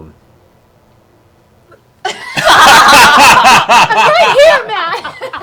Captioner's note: laughter